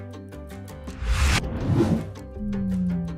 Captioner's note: wind whooshing; upbeat music; wind whooshing